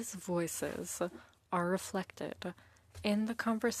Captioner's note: speaking French